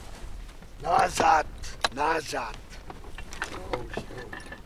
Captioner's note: man speaking Polish